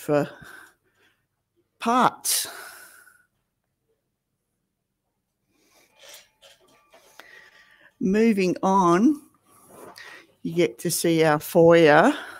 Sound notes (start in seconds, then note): none